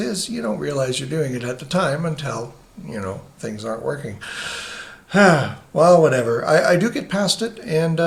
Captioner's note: sighs